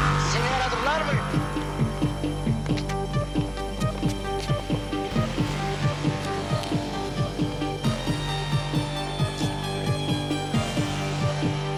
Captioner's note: gunshots; shouting